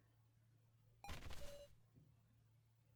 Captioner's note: dropping posture sound